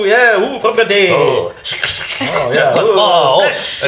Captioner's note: vocalizes sweeping